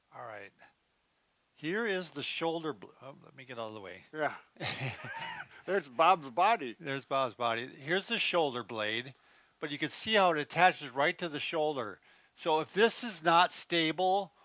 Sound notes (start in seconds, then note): 4.6 both laughing